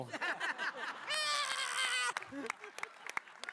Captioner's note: laughter